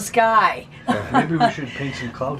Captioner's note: laughing